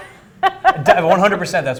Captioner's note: laughing